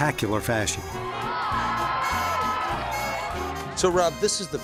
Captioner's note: people cheering